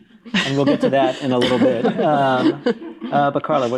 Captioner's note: all laughing